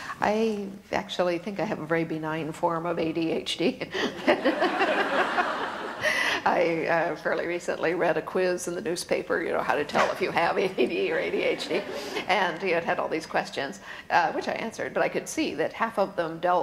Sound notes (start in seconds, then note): 4.1 laughter